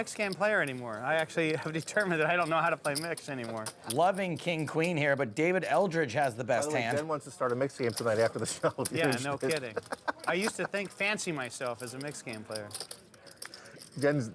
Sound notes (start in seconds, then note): 9.4 laughing